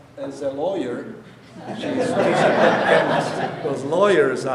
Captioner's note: audience laughing